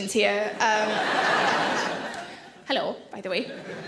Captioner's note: audience laugh